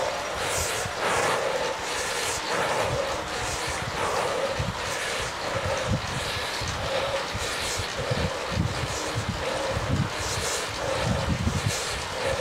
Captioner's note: heavy breathing